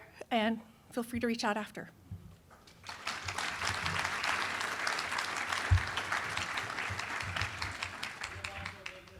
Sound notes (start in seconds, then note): 2.8 applause